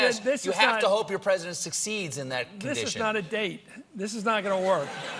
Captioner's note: laughter